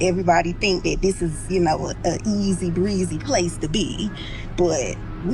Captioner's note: ice cream truck